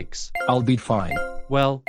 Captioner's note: beeping